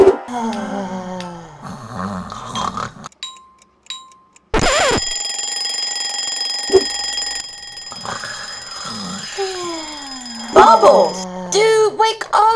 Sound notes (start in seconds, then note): 1.6 Bubbles snoring; 3.0 clock ticking; 4.5 record scratching; 4.5 alarm ringing; 7.9 Bubbles snoring